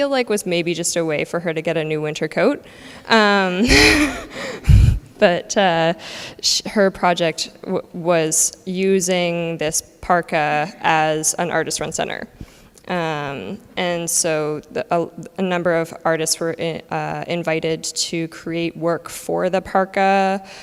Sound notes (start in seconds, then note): 3.6 laughs